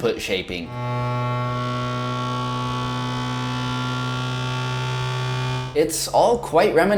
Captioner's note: furious calibration noises